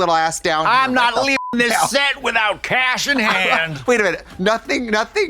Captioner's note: beep